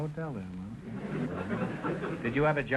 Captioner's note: audience chuckling